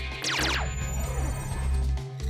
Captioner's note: laser sfx